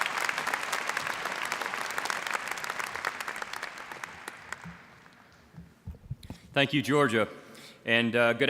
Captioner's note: applause